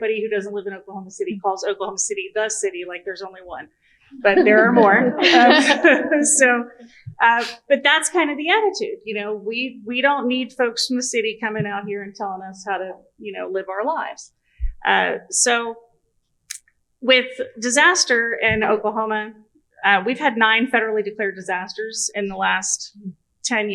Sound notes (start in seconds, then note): 4.2 laughter